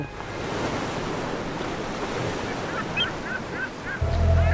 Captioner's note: waves crashing